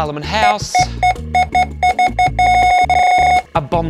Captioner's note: scanner beeping repeatedly